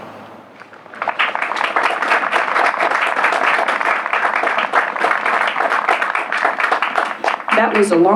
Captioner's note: applause